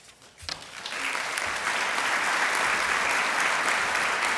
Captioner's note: applause